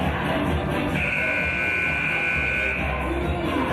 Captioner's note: buzzer